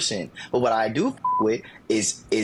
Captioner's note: beep